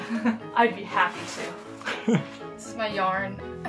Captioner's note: laughter; laughter